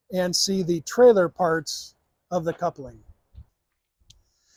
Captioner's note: none